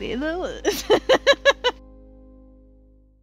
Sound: laughter

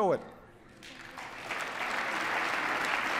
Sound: applause

